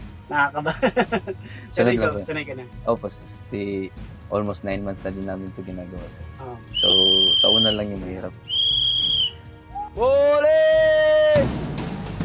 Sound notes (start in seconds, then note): 8.4 whitle blowing